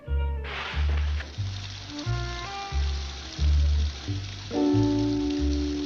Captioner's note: water running